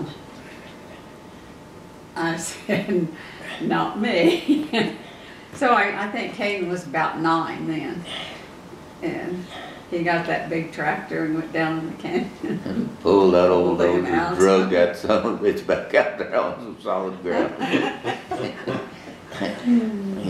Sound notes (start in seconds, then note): 4.0 laughs; 12.2 laughs